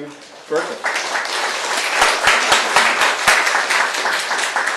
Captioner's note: applause